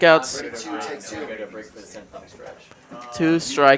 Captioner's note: indistinct chatter